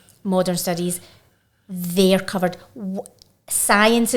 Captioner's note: none